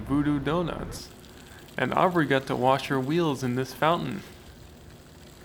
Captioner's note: water splattering on the pavement